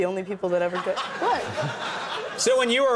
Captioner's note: audience laughing